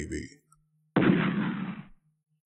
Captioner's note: explosion rumbles